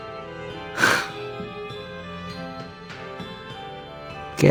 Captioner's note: sigh